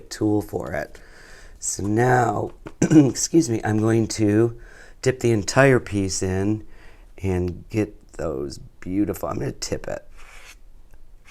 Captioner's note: clears throat